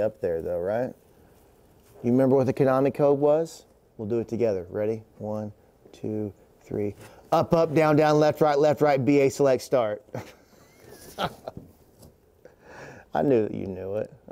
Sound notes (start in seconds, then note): 10.1 chuckles